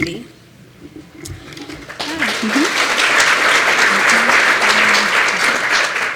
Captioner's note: applause